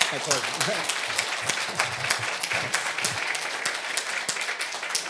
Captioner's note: audience applauding